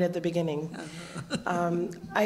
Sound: laugh

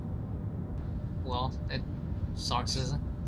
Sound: on the radio

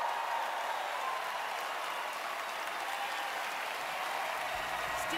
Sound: cheering, applause

